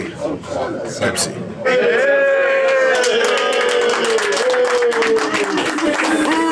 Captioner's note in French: Applaudissements